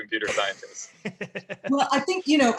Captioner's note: laughing